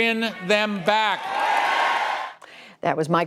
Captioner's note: cheering and applause